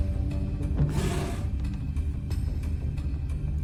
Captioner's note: discomforting rumble; table scrape